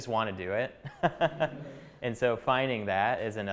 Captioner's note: chuckling